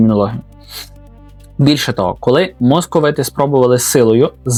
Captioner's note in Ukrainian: сопіння